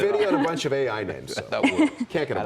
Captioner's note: laughter